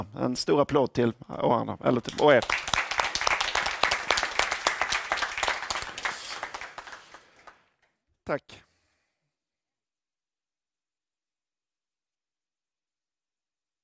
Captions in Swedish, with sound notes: En stor applåd till alla. [Applåder] Tack. Transkribering.nu